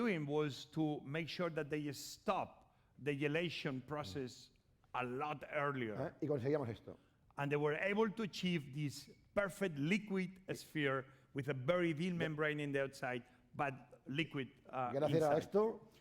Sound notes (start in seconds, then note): 6.4 speaking spanish